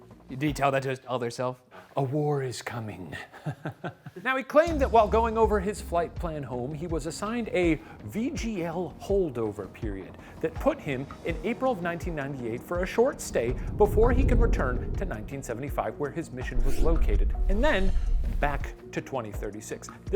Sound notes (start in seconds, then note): 3.3 chuckles